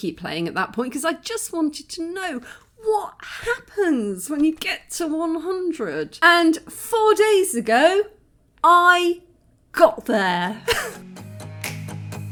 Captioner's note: laughing